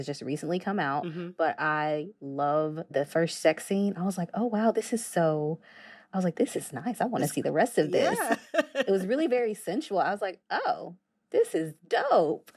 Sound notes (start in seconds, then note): 7.9 laughter